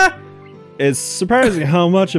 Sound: chuckles

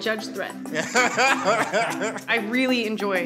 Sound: group laughs

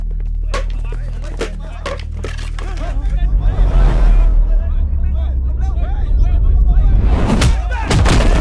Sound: Malay Language

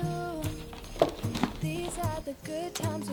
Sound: SFX: Closing lid

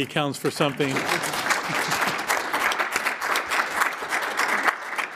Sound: applause

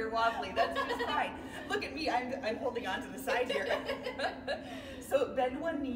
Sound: laughing

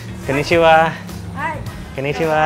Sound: speaks in foreign language

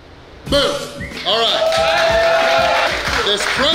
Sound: cheering & Clapping

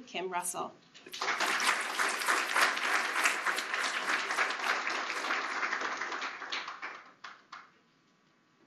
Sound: applause

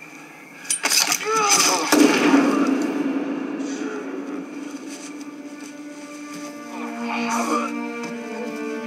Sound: shotgun shot

